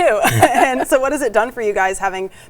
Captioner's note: laughs